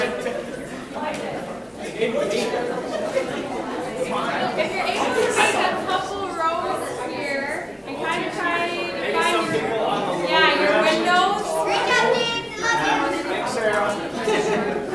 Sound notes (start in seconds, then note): 9.2 chatter drowning out photographer